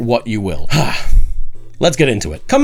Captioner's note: sighing